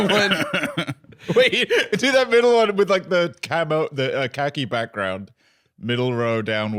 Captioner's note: laughing